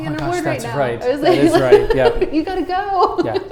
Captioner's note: laughing